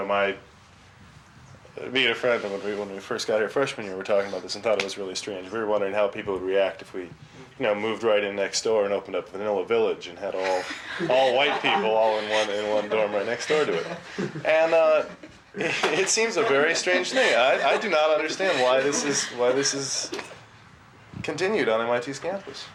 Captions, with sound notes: I know, me and a friend, when we first got here freshman year, we were talking about this and thought it was really strange. We were wondering how people would react if we, you know, moved right in next door and opened up Vanilla Village and had all White people all in one dorm right next door to it? (several students laugh) And it seems a very strange thing. I do not understand why this has continued on MIT's campus.